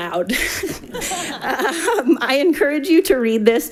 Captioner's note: laughing; laughs